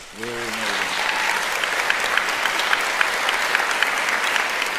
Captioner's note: applauding